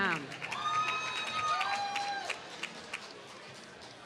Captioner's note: applause